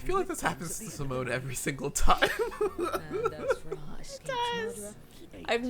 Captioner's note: laughs